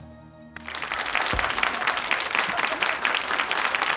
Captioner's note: audience claps